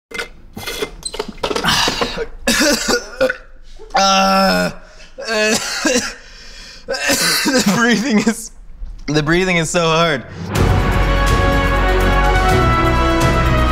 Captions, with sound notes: (slurping) (coughing) - Breathing is---breathing is so hard. (dramatic music)